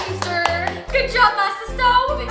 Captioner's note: hands clapping